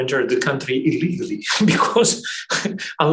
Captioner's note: laughs